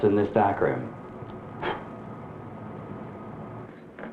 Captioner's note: blowing out match